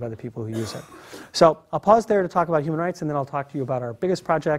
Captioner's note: cough